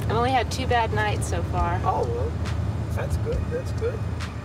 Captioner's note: none